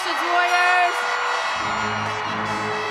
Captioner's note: graduates cheering